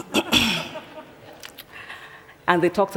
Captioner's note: laughter